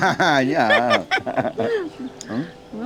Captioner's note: both laughing